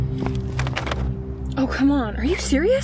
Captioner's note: doorknob jiggling